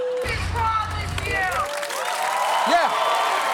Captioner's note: audience cheering, applauding